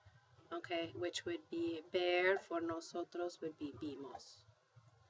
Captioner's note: spanish